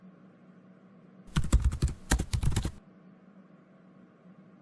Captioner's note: typing